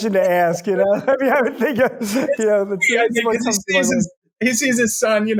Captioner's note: both laughing